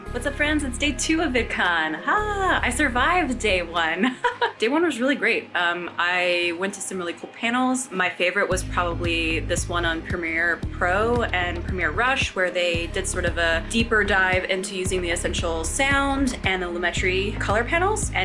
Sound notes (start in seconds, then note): 3.9 laughs